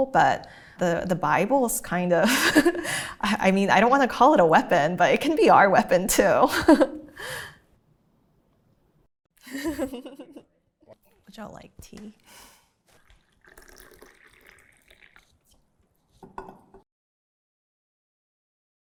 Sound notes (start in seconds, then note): 6.7 laughing; 12.8 tea gurgling